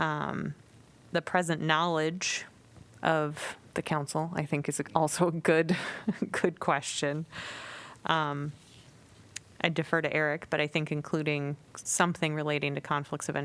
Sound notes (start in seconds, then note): 5.8 laughter